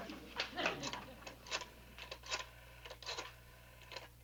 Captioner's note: dial whirs